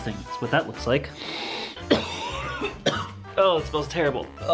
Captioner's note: coughs and gags